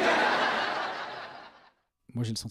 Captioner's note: laughs